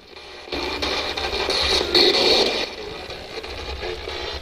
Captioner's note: static buzzing